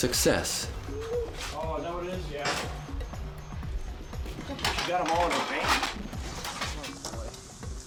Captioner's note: volunteers chatting